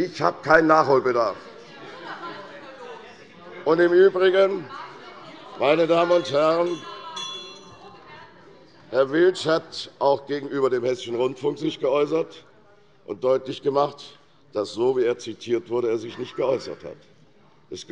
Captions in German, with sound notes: Ich habe keinen Nachholbedarf. [Unruhe - Glockenzeichen der Präsidentin] Herr Willsch hat sich auch gegenüber dem Hessischen Rundfunk geäußert und deutlich gemacht, dass er sich nicht so, wie er zitiert wurde, geäußert hat.